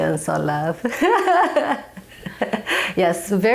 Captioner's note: chuckling